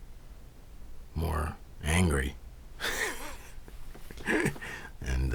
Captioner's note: laughs